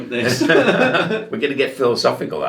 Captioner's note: both laughing